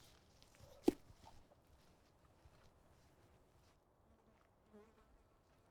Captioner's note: foot connects against soldier's leg